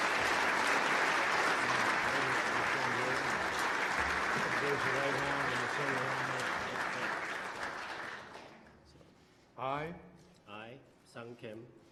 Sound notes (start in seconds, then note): 1.9 applause